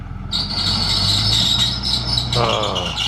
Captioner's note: metal scraping noise